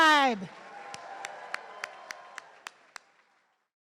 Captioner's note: everyone cheering